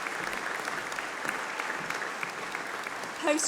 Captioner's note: applause